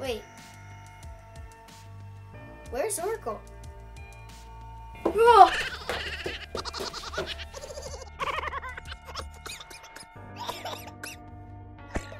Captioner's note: Mack runs away screaming while Oracle laughs